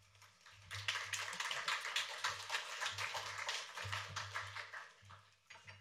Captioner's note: applause